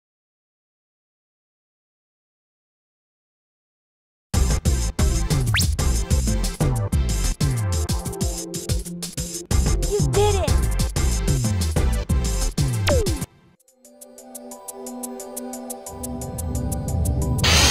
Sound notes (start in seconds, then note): none